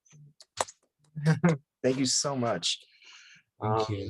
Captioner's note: chuckles